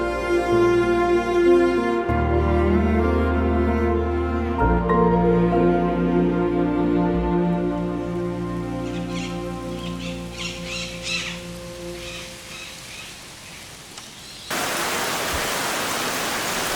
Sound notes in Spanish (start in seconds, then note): 8.6 canto de pájaros